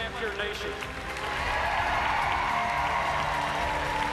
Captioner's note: cheers and applauses